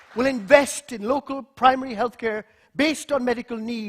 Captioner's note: applause